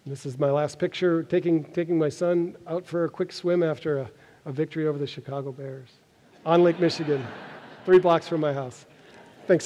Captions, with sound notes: And this is my last picture, taking my son out for a quick swim after a victory over the Chicago Bears [audience laughs] on Lake Michigan three blocks from my house.